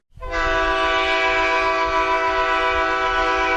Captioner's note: horn blasts